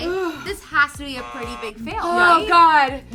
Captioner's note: buzzer sounds